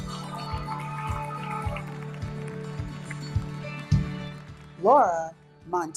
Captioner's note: audience cheering; audience applauding